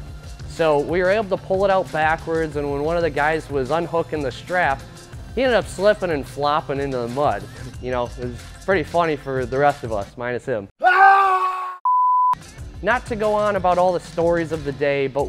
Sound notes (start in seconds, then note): 10.8 comical scream; 11.8 television beep